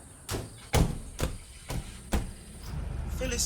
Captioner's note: car doors slam